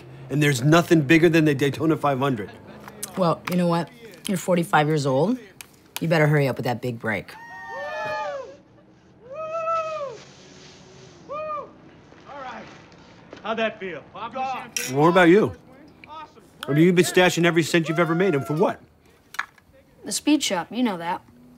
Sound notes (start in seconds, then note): 7.4 cheering on TV